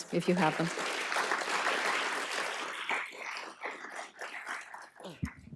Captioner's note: applause